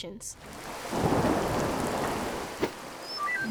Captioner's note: rain pouring; thunder rumbles; electronic beeping